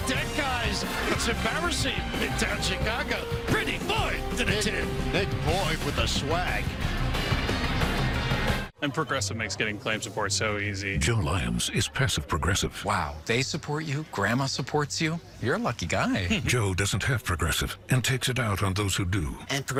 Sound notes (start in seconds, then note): 16.3 chuckles